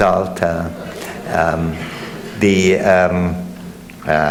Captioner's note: audience laughs